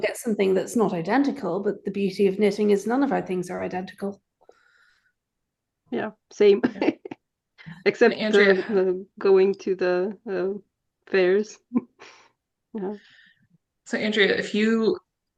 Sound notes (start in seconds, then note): 8.2 laughs